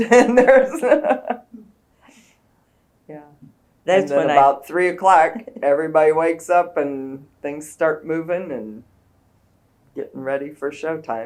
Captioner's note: laughs